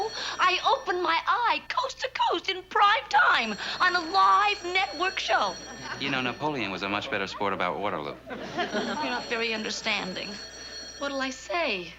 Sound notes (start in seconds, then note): 2.8 ringing continues